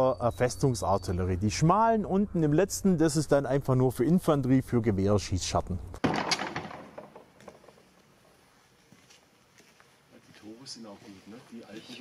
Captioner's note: rifles